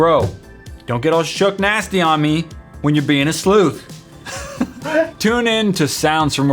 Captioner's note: laugh